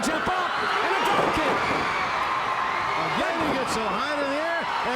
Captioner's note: crowd cheering